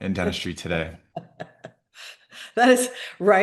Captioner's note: laughing